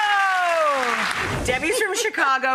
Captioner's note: applause